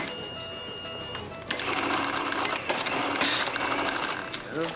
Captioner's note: register beeping, cranking